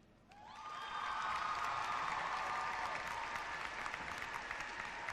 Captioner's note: cheering and clapping